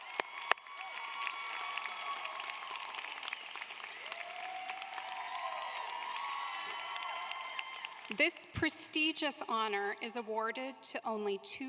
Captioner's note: applause